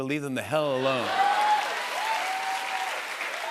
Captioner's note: laughter and applause